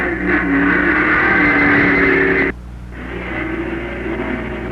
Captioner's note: engines roaring